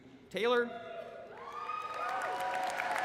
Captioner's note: applause